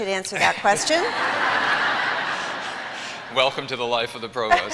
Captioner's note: laughter